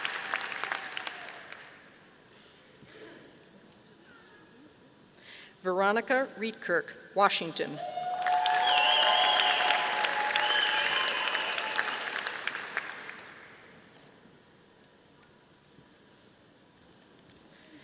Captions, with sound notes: Veronica Rietkerk, Washington. (audience applauding)